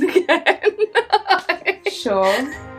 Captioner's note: laughs